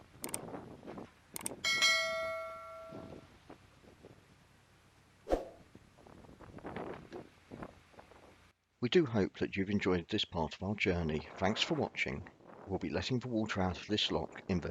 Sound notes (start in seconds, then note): 0.2 click - sound; 1.6 bell 'ding ding' - sound; 5.2 whoosh - sound